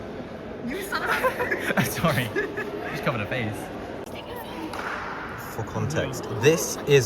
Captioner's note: laughter